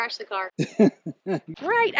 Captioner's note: laughing